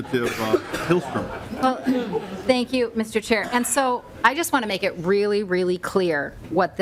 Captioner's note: laughter